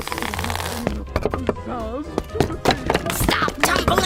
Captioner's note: Stretching sound as Flower's arm extends; shuffling noise as the totem bounces around